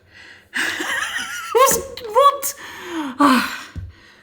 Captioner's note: laughs